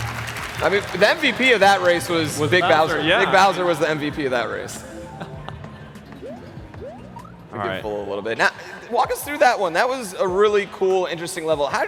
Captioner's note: applause